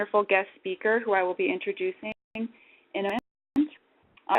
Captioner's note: audio skips